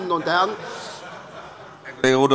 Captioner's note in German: Allgemeine Heiterkeit